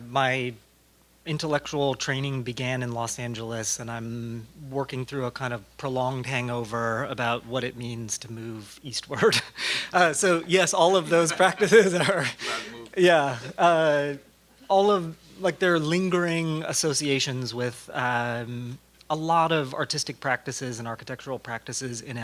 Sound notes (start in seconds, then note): 10.9 laugh